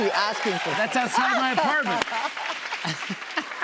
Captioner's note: laughs; laughter and applause